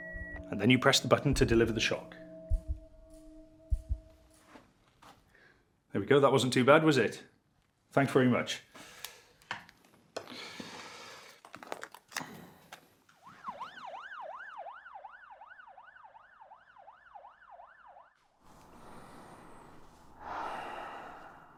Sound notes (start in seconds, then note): 13.2 sirens wailing; 18.6 Jamie sighs